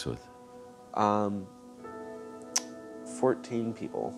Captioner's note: clicks tongue